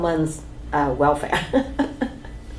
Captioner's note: laughs